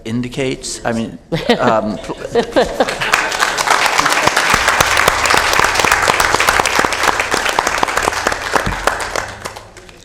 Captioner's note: applause